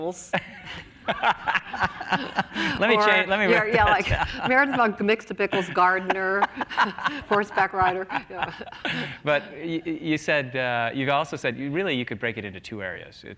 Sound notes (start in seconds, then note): 5.4 laughs